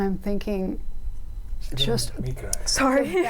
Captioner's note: crowd laughing